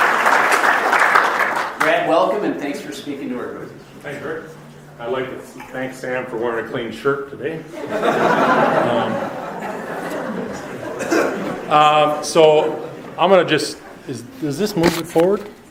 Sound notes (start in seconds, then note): 0.0 audience applauds; 7.6 audience laughs